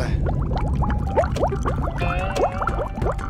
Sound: stomach growling

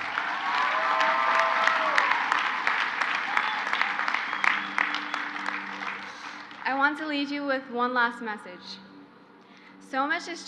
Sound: crowd applauds

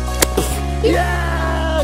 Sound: makes kicking noise

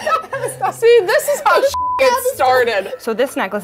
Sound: laughing; beep

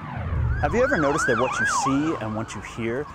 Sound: siren wailing

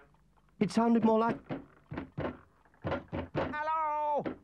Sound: someone knocks

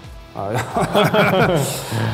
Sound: laughs

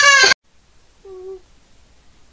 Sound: boop

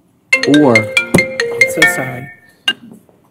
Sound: cell phone rings

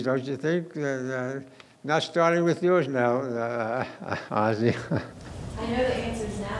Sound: laughing

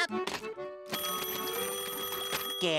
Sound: ringing

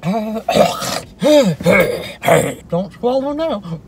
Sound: clears throat

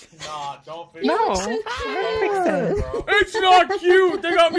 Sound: laughs

